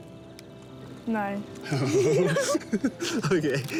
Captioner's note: both laugh